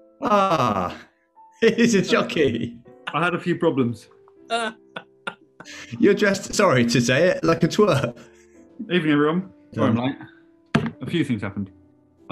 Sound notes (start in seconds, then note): 0.2 laughs; 4.5 laughing